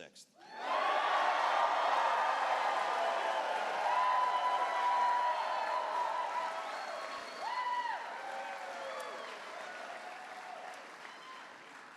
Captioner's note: cheers